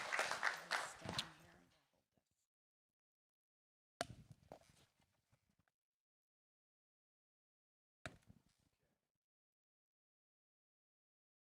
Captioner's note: applause